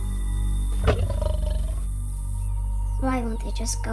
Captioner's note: Lion Growls